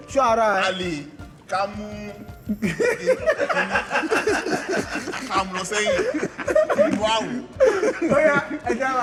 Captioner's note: everyone laughs